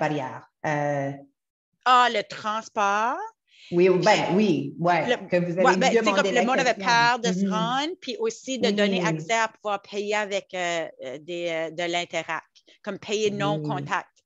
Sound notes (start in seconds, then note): 2.8 French; 4.7 French; 8.3 French; 12.5 French